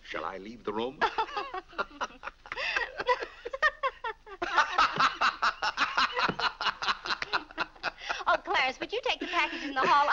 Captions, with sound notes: - Shall I leave the room? (laughing) - Oh Clarence, would you take the package in the hall